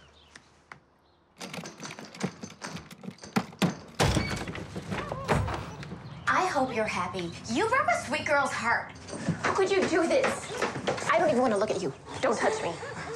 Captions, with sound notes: (birds chirping) (doorknob rattling) I hope you're happy. You broke a sweet girl's heart. How could you do this? I don't even wanna look at you. Don't touch me.